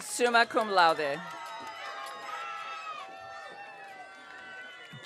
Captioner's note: audience cheering